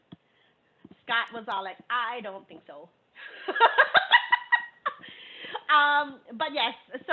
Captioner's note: laughing